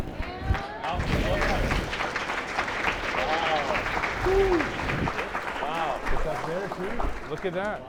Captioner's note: clapping